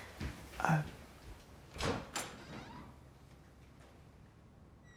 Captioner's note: door opens, shuts